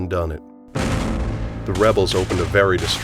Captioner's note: gunfire